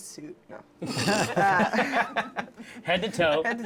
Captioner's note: laughter